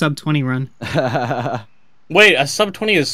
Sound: laughter

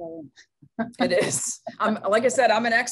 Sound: laughing

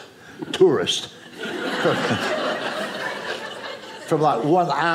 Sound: audience laughing

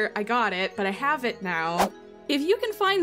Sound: quick Whoosh Sound Effect

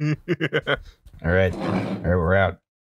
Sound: laughter

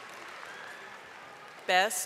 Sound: audience applauding

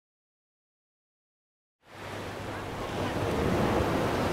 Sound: waves crashing

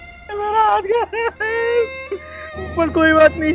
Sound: crying

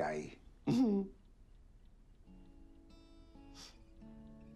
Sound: Tony chuckles; gentle music

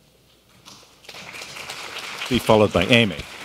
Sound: audience applauds

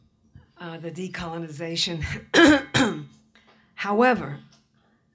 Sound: coughs

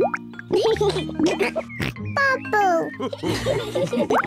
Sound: all laugh; laughs and snorts

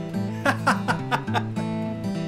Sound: laughing

